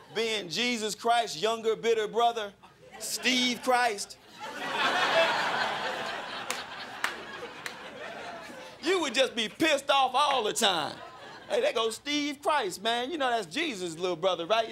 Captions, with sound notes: Being Jesus Christ's younger bitter brother, Steve Christ? [crowd laughing] You would just be pissed off all the time. "Hey, there goes Steve Christ, man. "You know that's Jesus' little brother. Right?